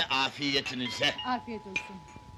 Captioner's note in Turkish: kapi zi̇li̇ çalar